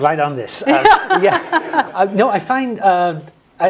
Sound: laugh

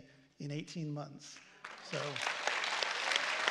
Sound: applause

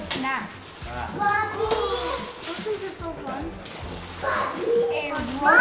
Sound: kids talking in background

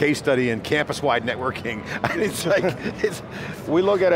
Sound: laughing

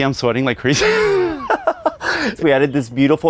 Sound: laughing

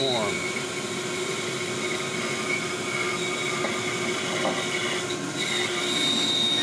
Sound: saw humming; buzzing

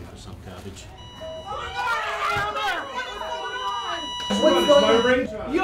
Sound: flatline noise

